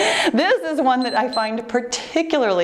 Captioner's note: laughing; timer beeps